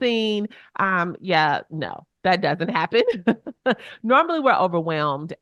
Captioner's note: chuckles